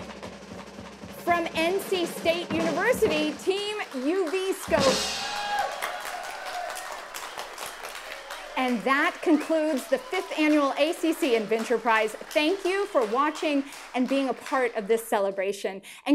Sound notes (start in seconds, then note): 0.2 feet stamping; 5.7 applauding; 5.7 cheering